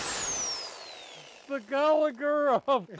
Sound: electric saw whirring

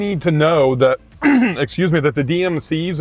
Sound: clears throat

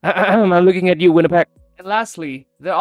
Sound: cough cough

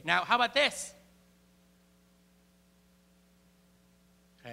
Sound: <i>Brief pause</i>

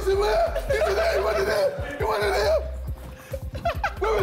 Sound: men laugh

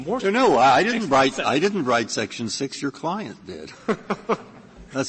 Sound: laughter

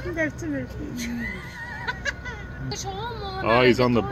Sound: laughs

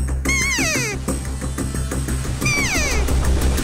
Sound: elk call blows

